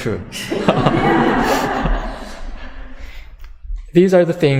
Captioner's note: audience laughter